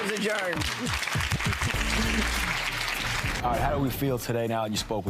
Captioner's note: audience clapping